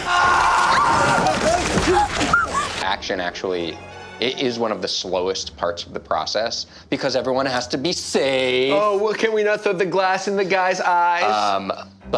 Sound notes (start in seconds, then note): 0.0 man yelling; 1.6 girls gasping